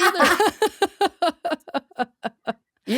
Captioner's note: laughing